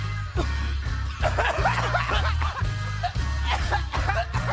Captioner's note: group coughing